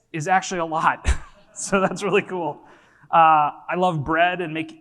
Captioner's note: laughs